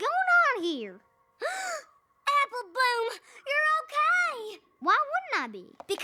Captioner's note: gasps